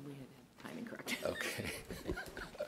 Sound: laughs

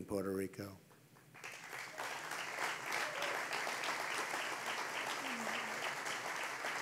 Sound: applause

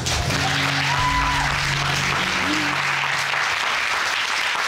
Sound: audience applauding

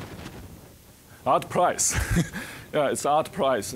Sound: chuckling

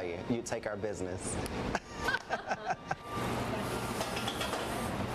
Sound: laughter

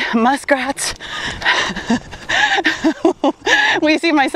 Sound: laughs

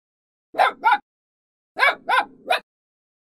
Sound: puppy barking

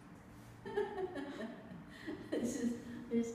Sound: laughs

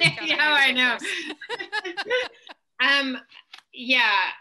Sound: both laugh

